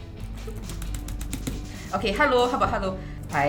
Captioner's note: intense keyboard sounds